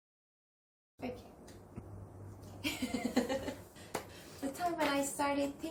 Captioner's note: laughs